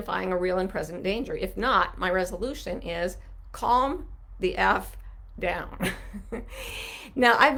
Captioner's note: laughs